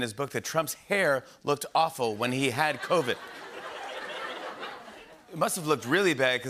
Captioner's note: laughter